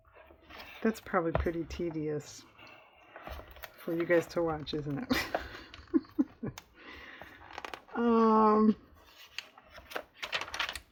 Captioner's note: laughs